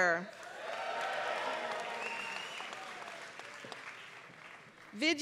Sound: applause

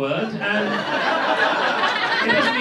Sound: laughter

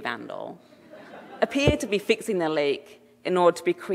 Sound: audience laughing

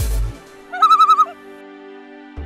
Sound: loon call

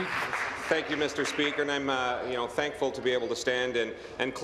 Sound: applause

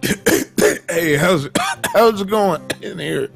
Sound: wolf coughing

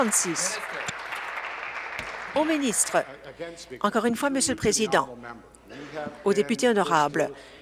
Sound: applause

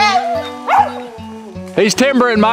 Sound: dog barking

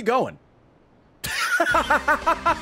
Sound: laughs

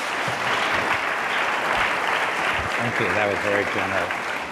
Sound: audience applause

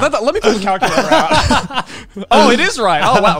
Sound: everyone laughs

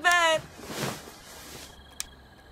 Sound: covers rustle; click

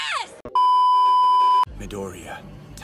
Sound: beep

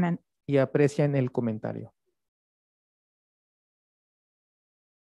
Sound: speaks Spanish

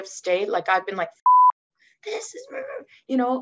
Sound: beep

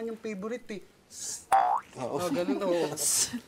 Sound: laughs

